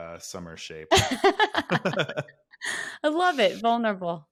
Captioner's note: laughing